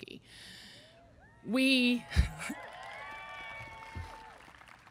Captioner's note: audience cheering